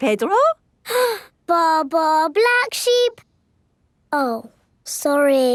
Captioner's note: inhales